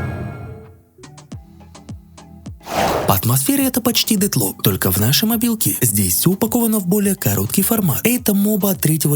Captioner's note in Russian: фыркает